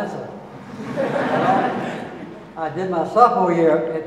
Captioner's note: audience laughing